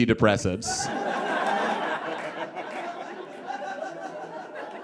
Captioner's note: audience guffaws